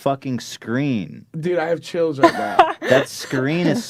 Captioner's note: laughs